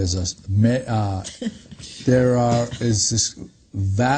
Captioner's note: laughs